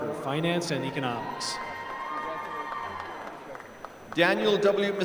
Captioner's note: applause